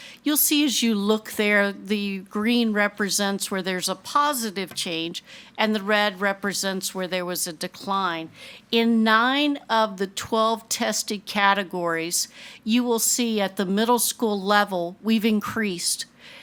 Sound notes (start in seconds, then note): none